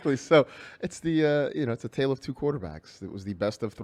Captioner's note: laughs; laughs